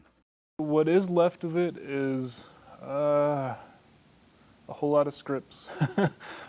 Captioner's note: laughs